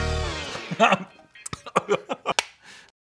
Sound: laughing

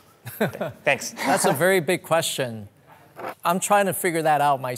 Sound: laughing

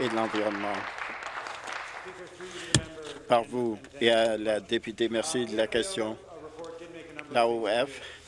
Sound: applause

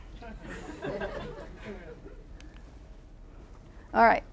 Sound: laughing

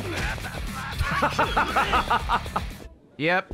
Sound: laughs

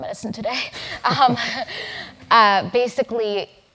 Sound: laugh

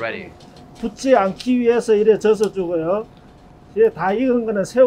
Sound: speaking in Korean

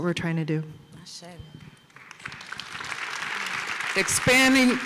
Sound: applause

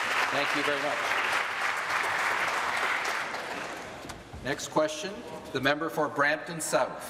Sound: applause

